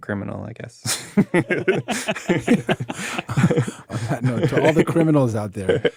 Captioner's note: all laughing